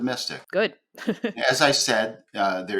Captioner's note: chuckles